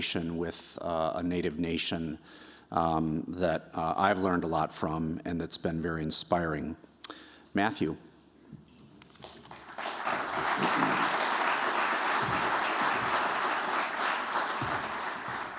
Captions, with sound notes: with a Native nation that I've learned a lot from and that's been very inspiring. Matthew? [applause]